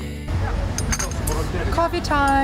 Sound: cups clanking

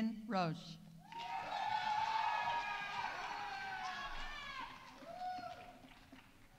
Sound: audience cheering; audience applauding

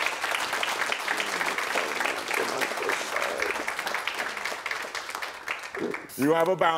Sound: audience applauding

